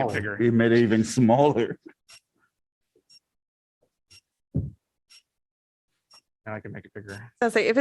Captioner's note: laughter